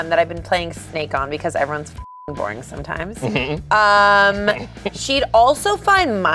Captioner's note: beeps